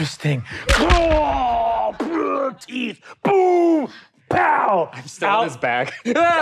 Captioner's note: blows thudding; groaning; players laughing